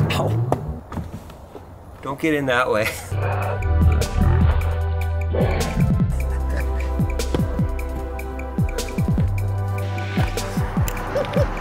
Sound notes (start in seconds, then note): 3.1 upbeat music; 6.0 narrator laughs